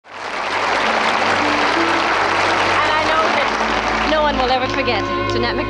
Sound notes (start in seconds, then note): 0.0 audience clapping